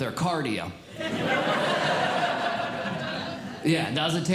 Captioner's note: audience Laughing